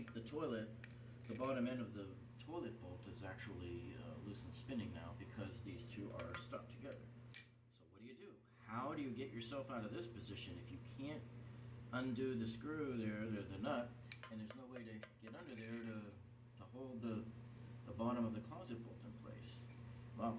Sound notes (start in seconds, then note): 6.2 wrench clanks; 15.2 clanks wrench